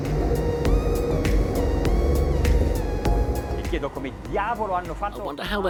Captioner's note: speaking in foreign language